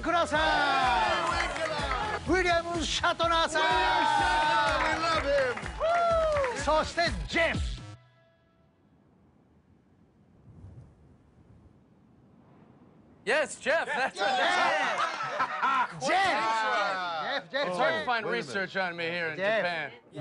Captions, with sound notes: [cheers and applause] [speaking Japanese] [cheers and applause] [speaking Japanese] [abrupt silence] - Yes, Jeff. That's correct. - Jeff! - Quite an intro. It's hard to find research on me here in Japan.